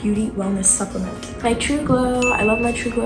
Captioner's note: chime